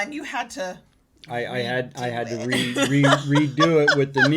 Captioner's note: laughing